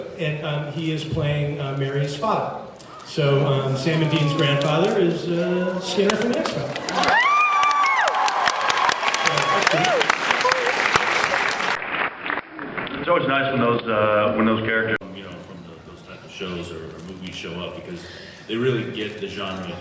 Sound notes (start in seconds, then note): 6.7 cheers; 11.2 applauds